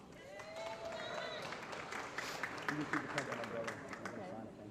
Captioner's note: applause